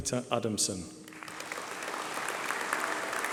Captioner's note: applause